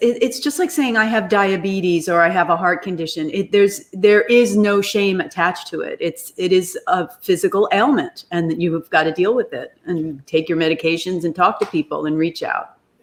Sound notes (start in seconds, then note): none